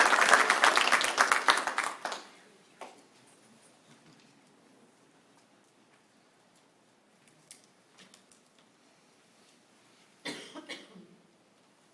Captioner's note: applause